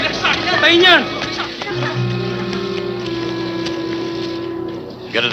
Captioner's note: speaking in foreign language